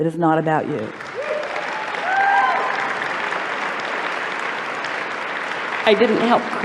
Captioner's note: applause